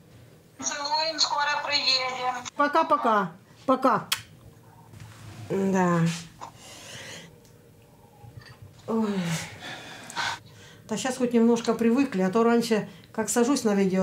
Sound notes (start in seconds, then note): 4.6 gives air kiss; 8.8 sighs